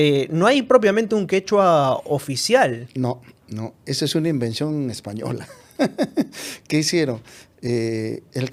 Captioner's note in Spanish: risas